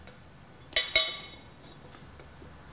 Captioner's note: high clinking